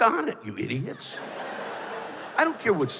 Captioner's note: laughter